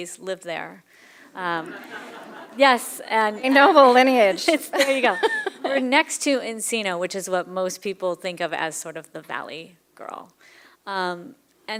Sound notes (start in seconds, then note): 1.3 laughter